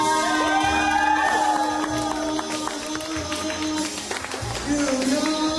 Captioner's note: crowd cheering and applauding